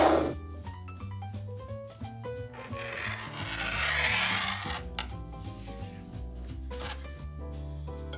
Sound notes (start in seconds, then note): 2.5 metal sliding on table